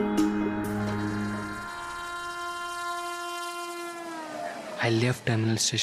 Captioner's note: train Honking